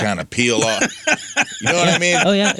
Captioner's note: laughing